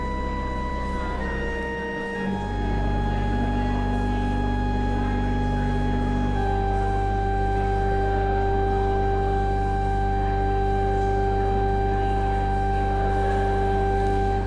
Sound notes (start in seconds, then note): none